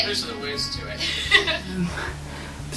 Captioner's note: giggle